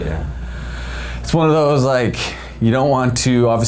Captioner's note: sighs